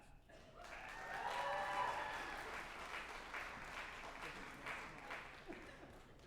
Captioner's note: group applauding and cheering